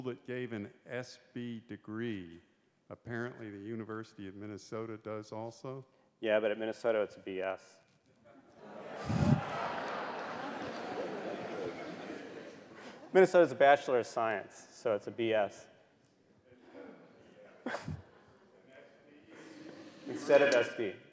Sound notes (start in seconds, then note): 8.5 laughter